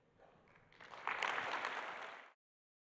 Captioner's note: applause